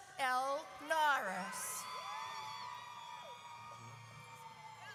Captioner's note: audience cheers